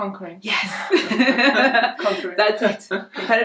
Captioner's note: laughs